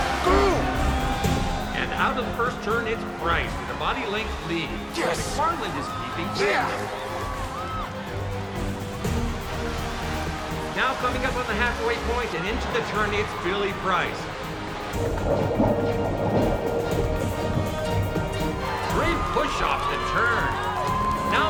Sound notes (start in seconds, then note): 7.7 adventurous music; 15.3 water gurgles